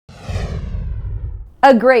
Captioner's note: air swooshing